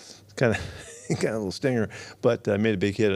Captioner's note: laughs